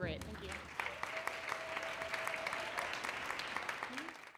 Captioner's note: audience clapping